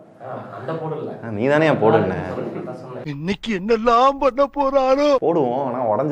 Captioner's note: Tamil film dialogue